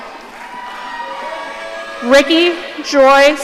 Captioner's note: audience cheering